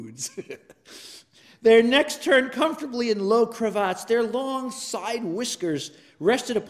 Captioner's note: laugh